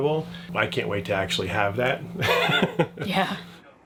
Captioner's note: laughs